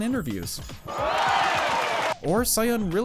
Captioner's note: cheers